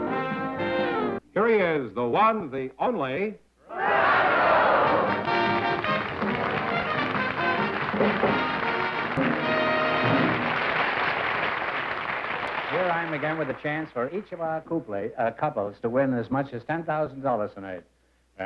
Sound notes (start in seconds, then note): 7.5 applause